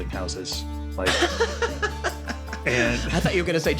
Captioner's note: laughs